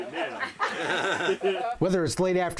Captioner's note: laughing